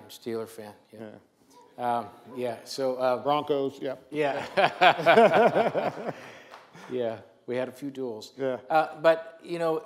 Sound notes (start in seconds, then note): 4.2 laugh